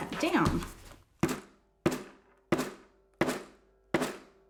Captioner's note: hammer striking